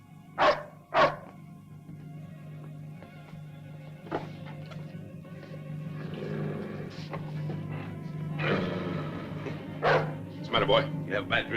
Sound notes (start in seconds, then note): 0.4 dog barking; 3.4 tense music; 5.7 dog growling; 9.8 dog barks